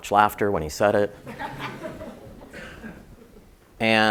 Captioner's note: laugh